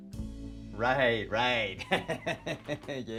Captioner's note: laughs